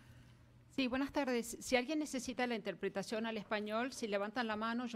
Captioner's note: speaking Spanish